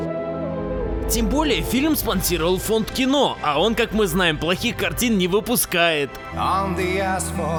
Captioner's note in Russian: с сарказмом